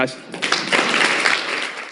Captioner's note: applause